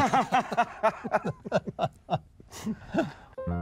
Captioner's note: all laugh